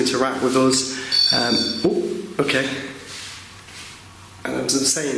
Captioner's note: REM-POD beeping